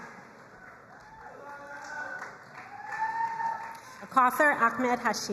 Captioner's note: crowd cheering and applauding